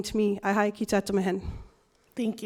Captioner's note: foreign language